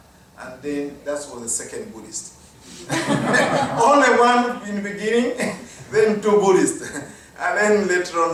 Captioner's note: laughter